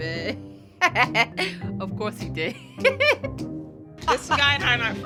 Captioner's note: laughing